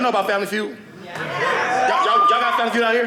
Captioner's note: audience cheering